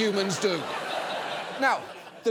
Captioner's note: audience laughs